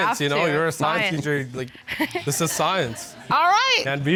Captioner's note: chuckles